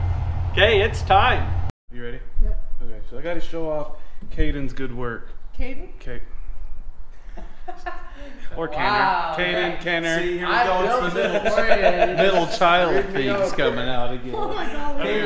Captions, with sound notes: Okay, it's time. Are you ready? Yep. Okay, so I gotta show off Kaden's good work. Kaden? Or Kenner (sigh) Kaden, Kenner (laughing) Middle child thing is coming out again